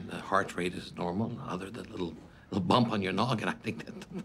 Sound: chuckles

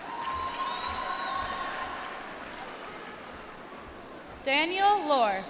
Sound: applause

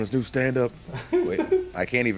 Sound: laugh

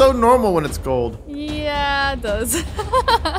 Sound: laughs

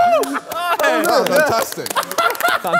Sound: clapping

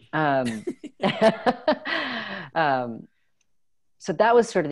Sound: laughter

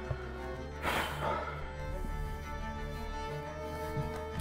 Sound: captain sighs

